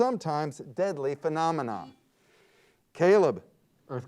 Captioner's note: buzzer beeps